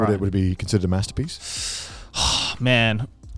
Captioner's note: sighs